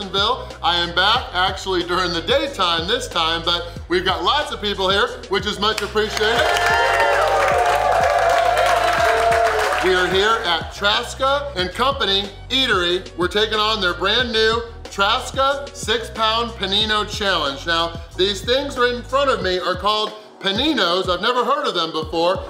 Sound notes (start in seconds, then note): 5.7 cheering & Clapping